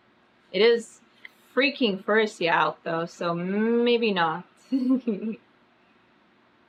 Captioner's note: laughs